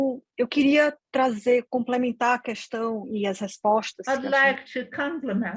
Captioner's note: speaking in foreign language